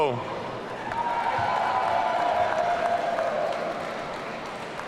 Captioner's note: audience cheering